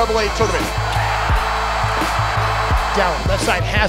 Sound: cheering

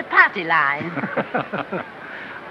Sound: laughing

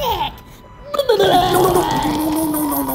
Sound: vomiting

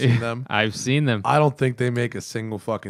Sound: laughter

